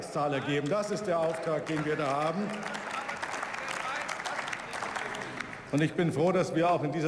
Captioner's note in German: Beifall